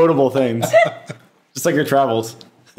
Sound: all laughing

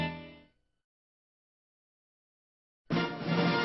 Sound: silence; rousing fanfares resuming

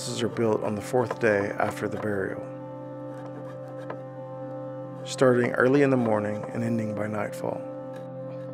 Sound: hammering

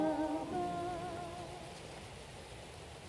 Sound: clatter of river, low winds

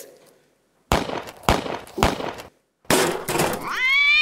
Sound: three gunshots; something falls over, a cat annoyedly meows

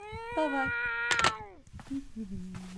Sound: cat meows; humming

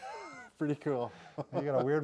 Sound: laughs

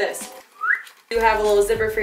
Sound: whistle

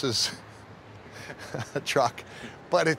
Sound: chuckling

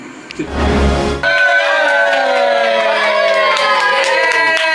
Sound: group cheering

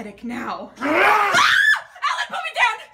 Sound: roars; screams

